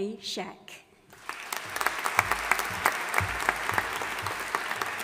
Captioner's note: audience applauding